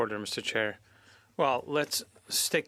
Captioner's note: speaking French